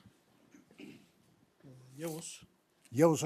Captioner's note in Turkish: boğazını temizler